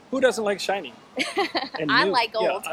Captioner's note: laughing